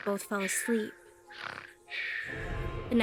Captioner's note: snoring